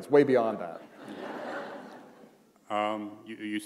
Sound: laughter

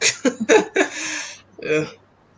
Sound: laughs

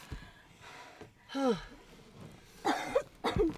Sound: sighs; coughing

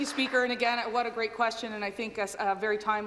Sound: applause

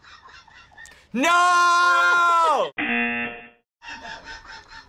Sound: buzzer

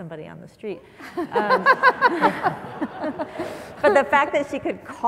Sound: audience laughs

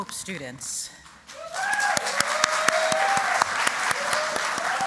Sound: applause

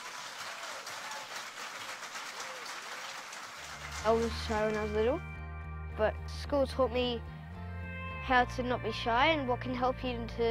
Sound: applause

